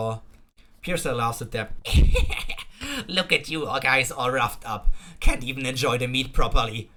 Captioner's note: laugh